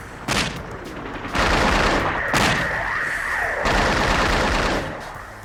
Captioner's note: rapid gunfire popping